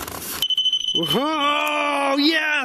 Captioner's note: digital beeping